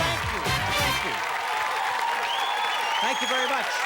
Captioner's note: cheers and applause